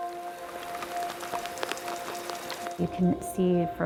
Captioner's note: liquid shaking inside sample tube